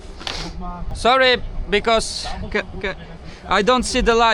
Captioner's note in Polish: parsknięcie